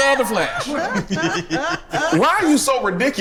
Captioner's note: group laughs